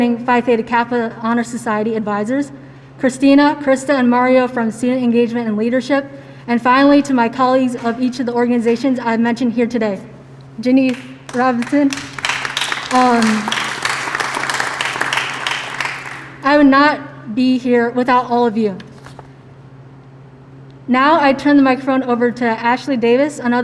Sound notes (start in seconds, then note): 13.5 applause